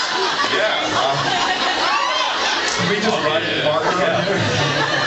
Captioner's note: laughs; still laughing